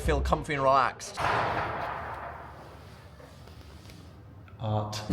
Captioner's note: door clattering